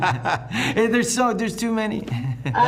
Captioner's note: all laughing